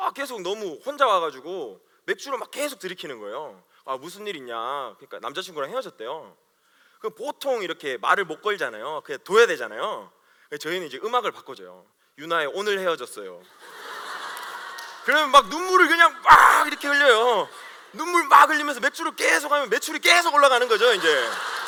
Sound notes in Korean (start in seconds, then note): 13.5 웃음